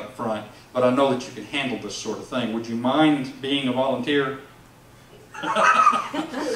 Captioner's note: laughs